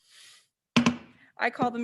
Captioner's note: gavel bangs